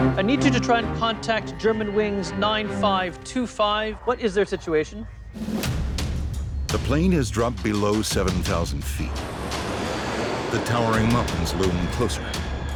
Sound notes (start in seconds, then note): 5.8 dramatic drum music; 6.8 voiceover